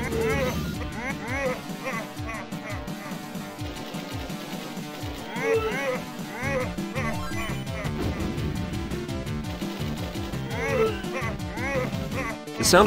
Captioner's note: game sounds